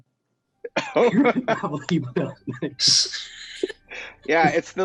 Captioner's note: laughing